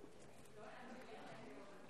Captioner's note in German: none